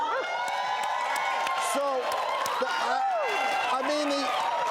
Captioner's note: audience cheering